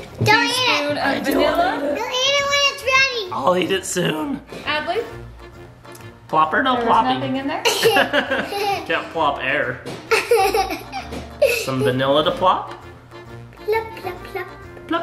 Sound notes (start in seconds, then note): 10.1 chuckling